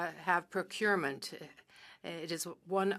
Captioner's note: speaking French